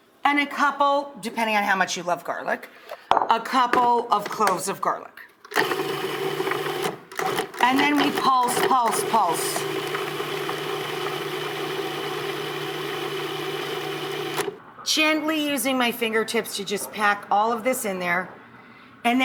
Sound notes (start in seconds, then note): 5.6 food processor buzzing; 9.5 food processor buzzing